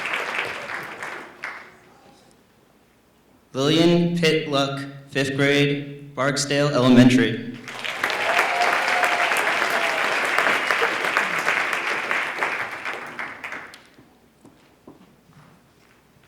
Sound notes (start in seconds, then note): 0.0 applause; 11.6 applause